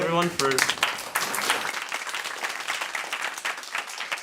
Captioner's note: applause